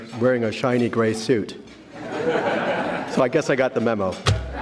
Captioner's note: audience laughing